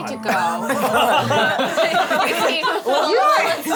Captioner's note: all laugh